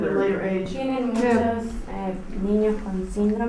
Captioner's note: speaking Spanish